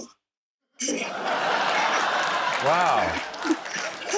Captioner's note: laughter, applause